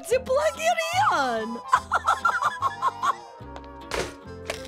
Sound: laughing

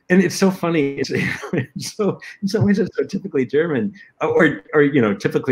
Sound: laughter

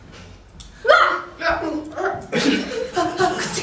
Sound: scream

